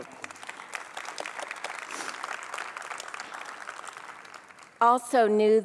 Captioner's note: applause